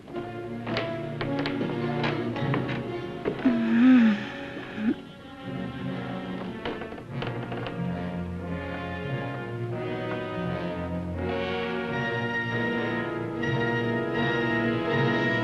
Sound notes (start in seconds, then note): 0.2 dramatic ominous music; 3.4 Jan moans softly; 6.4 dramatic ominous music